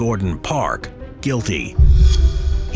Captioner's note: transition whooshing